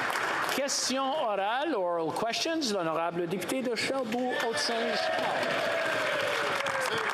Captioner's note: applause